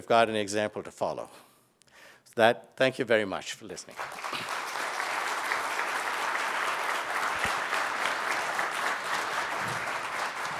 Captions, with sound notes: we've got an example to follow. So that, thank you very much for listening. (audience clapping)